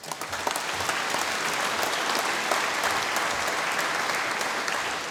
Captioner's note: applause